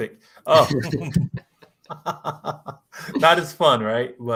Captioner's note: laughter